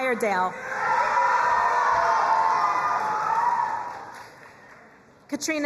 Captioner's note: crowd cheering and applauding